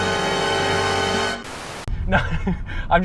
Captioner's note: white noise